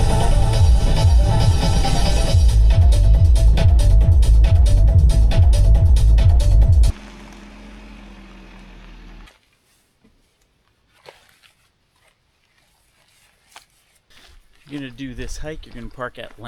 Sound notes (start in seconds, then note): 4.4 rain splashing